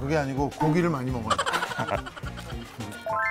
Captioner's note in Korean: 웃음